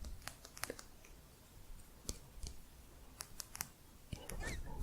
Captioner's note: sporatic tapping